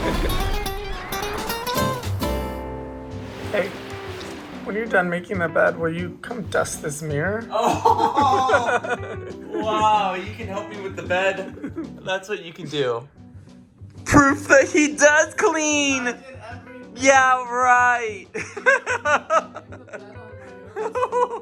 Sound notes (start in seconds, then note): 0.0 laughing; 0.3 upbeat happy music; 7.6 laughing; 18.4 laughing